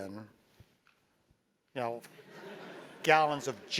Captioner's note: laugh